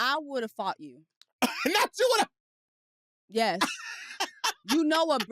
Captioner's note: laughs